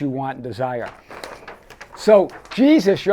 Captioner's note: paper rustling